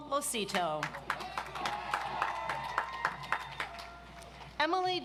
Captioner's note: audience applauds